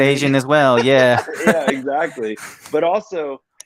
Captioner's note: both laugh